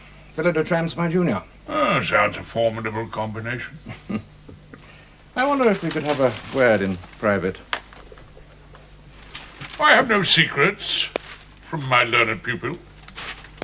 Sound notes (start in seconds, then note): 3.8 chuckles softly